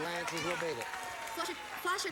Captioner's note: audience applauding